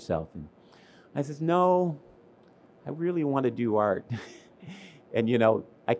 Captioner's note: laughs